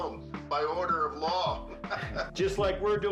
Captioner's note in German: lacht